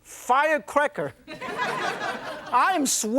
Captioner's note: laughter